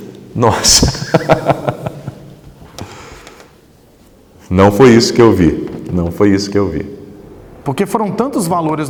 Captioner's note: laughs